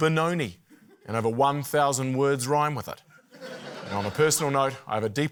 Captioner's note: laughter